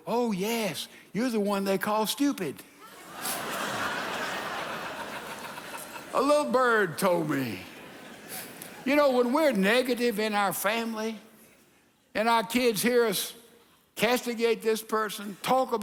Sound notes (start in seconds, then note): 2.8 congregation laughs